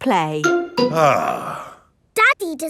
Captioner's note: sighs